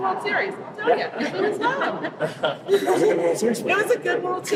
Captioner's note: laughing